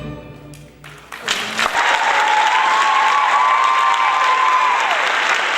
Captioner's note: audience cheering